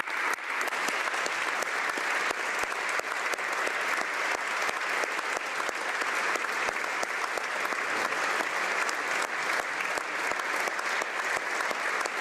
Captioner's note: applause